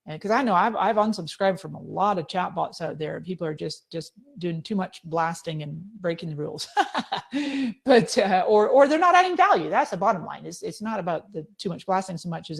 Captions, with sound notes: 'Cause I know I've unsubscribed from a lot of chatbots out there, people are just doing too much blasting and breaking the rules. (laughing) Or they're not adding value, that's the bottom line. It's not about the too much blasting so much